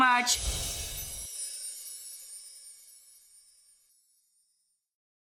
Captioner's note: Fairy Dust Sound Effect